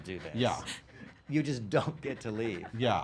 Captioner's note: laughing